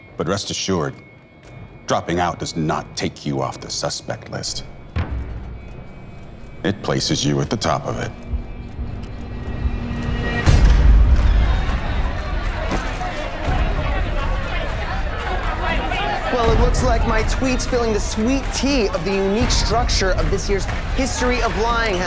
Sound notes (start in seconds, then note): 5.2 dramatic music; 8.7 dramatic music; 8.7 overlapping chatter